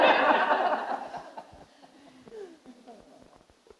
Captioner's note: group laughing